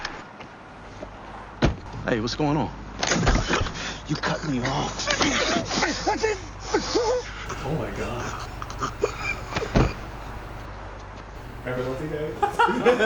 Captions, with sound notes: -Hey, what's going on? -You cut me off [Choking sounds]